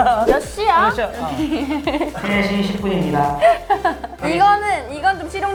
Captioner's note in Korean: 웃음